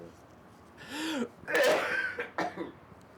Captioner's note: coughs